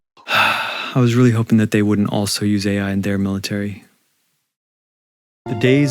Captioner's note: sigh